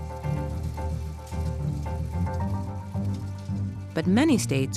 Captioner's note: projector whirring